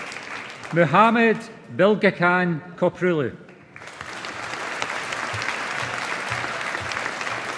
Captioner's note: audience applauding